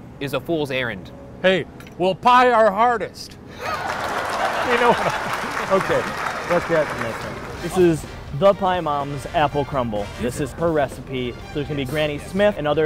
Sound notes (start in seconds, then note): 3.6 laughs; 3.6 applause